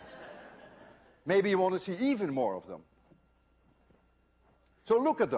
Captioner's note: laughter